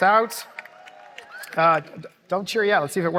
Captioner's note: applause